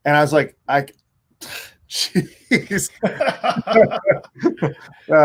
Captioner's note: laughs